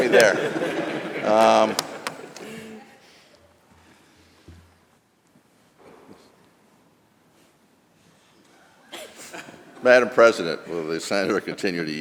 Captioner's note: laughter